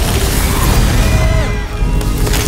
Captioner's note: all cry out; ice crystals crackling